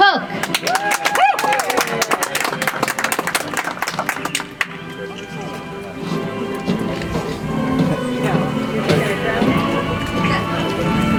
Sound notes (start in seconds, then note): 0.4 audience applauds; 4.0 soft music